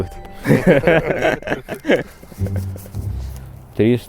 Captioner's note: laughing